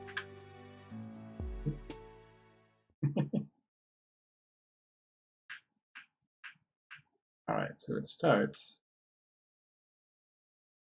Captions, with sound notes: Oop. [chuckles] All right, so it starts...